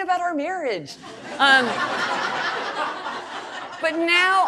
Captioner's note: audience laughing